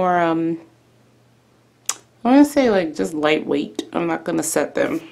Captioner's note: smacks mouth